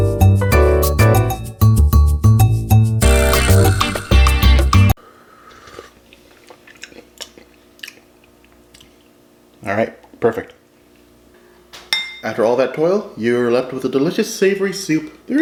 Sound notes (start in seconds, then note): 0.0 latin jazz music; 5.4 slurping and smacking